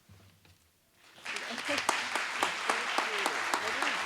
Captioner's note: applause